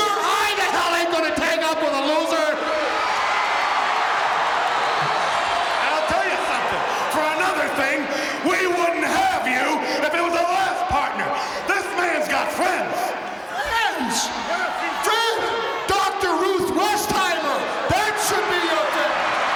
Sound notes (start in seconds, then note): 2.7 audience cheering; 19.3 audience cheering